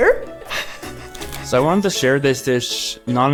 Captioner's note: laughs quietly